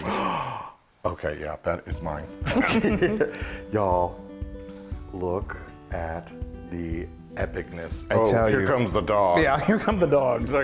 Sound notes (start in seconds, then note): 2.5 laugh